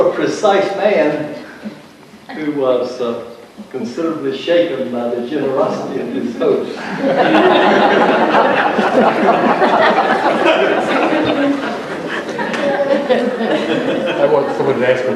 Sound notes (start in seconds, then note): 6.7 laughter